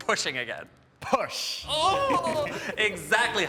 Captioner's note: chuckles